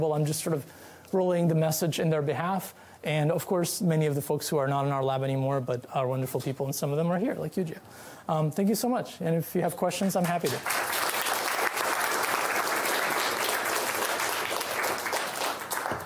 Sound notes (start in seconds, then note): 10.2 applause